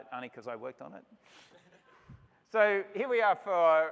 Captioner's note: laughter